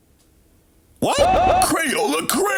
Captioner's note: man yelling with echo